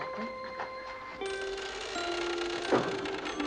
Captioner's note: creaking